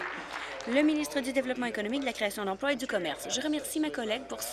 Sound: applause

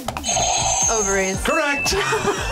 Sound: buzzer rings; both laugh

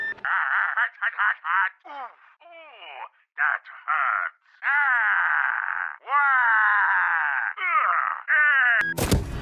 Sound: Wario noises

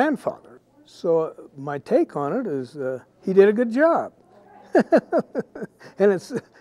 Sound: laughing

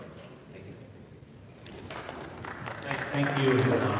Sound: audience applauding

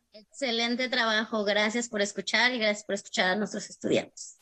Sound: speaks Spanish

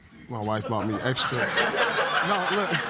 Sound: audience laughs

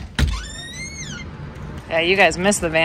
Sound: door squeaking

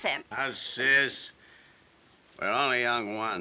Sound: none

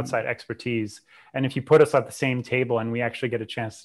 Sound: breath

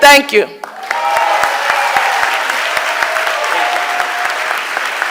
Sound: audience applauding

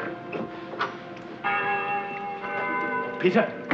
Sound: bells chiming

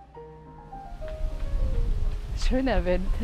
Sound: wind noise

